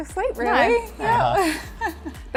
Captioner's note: laughs